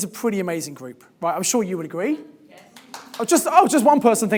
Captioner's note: person applauding